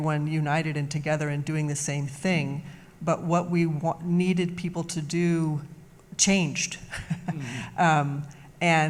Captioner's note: laughs